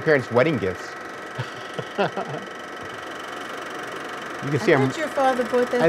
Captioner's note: laughing